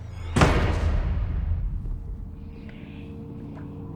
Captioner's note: door slams; eerie music